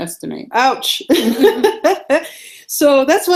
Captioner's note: laughing